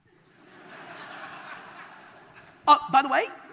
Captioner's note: audience laughter